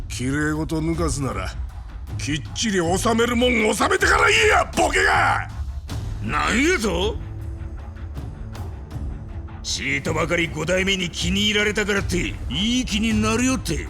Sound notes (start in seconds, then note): 4.8 shouting